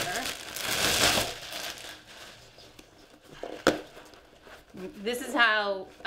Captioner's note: plastic crinkling; cardboard popping